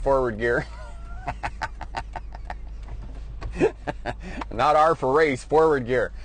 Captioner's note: laughs